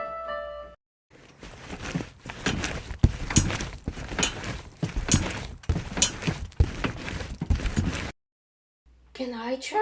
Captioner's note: the sounds of kids jumping on trampolines